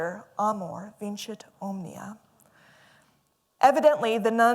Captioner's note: non-english speech